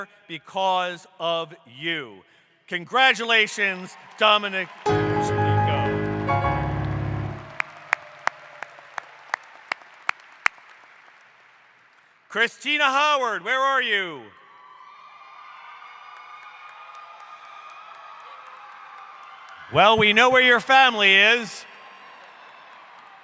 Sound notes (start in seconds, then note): 6.2 applause; 15.3 crowd